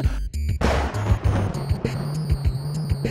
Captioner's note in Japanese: 雷の音